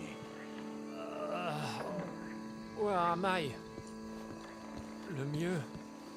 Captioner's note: comes to and grunts